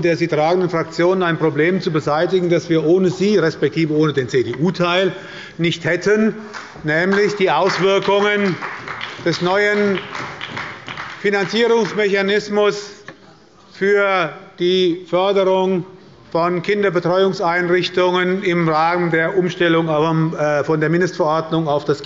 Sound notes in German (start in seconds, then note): 7.0 Beifall bei der SPD und der LINKEN